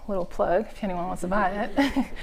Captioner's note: laughter